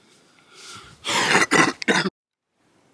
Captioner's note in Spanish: carraspeo